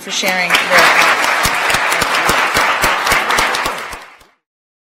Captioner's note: attendees applauding